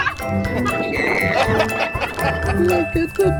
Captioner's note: kids exclaim; laughs; squeals